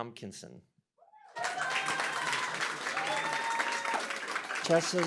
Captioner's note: cheering, applause